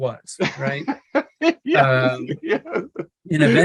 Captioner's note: laughing